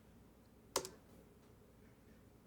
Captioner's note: spacebar tap